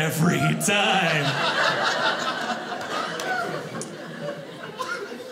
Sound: audience laughing

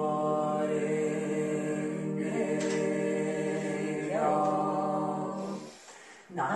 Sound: chanting

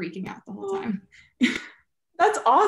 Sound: group chuckling

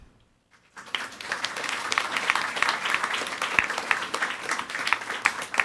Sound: audience applauding

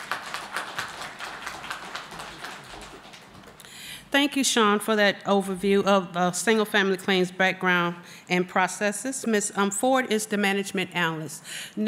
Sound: applause

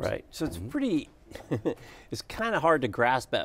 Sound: laughs

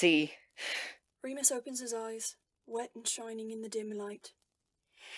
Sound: Remus sighs

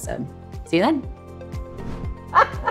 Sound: air whooshing; laughs

